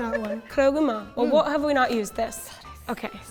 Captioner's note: imitating Japanese words; speaking in Japanese